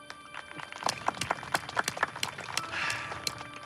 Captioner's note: applause